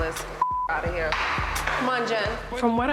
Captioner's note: beep